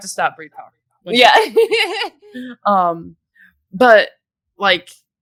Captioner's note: laughs